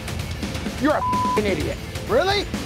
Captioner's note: beep